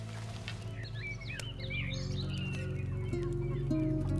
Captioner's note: birds chirping; light guitar music